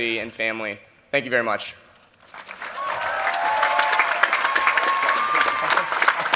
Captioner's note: cheering and applause